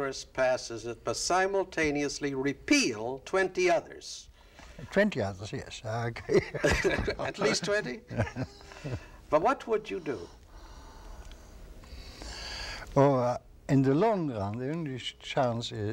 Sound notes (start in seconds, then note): 6.2 laughs